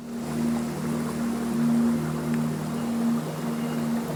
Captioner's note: water flowing; light music